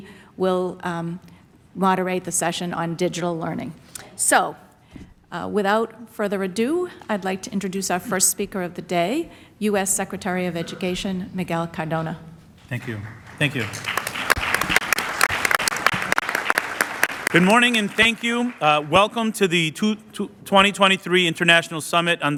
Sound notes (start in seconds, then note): 14.4 applause